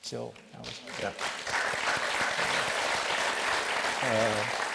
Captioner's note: audience applauds